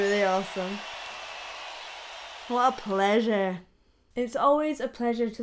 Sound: crowd cheering

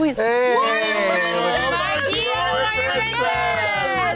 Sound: screaming

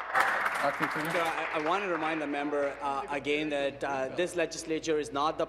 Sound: applause

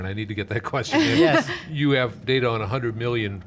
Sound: laughs

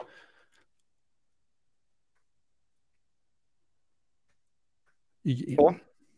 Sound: silence

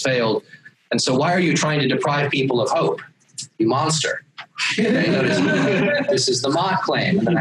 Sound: laughter

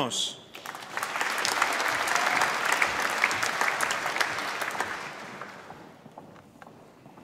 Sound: applause

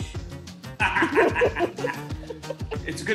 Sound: laughs

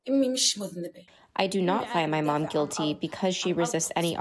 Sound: through translator

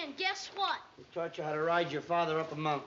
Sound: sarcastically

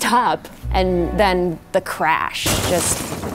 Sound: loud crash

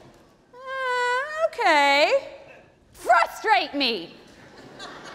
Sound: audience laughing

